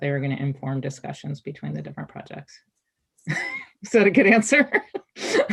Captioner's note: chuckles